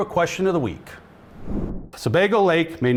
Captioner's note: screen whooshing